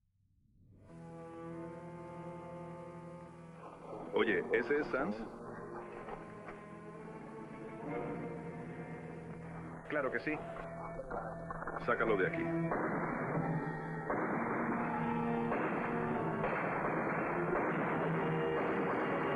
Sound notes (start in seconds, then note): 0.9 foreboding music; 12.8 gunfire blasting; 14.0 suspenseful music